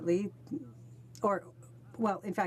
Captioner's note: speaking French